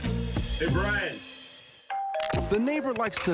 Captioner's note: doorbell ringing